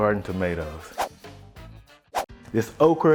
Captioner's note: whooshing